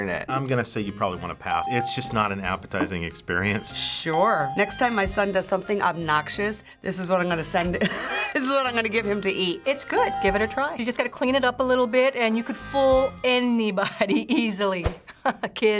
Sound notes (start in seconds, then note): 7.8 snickers; 15.1 chuckles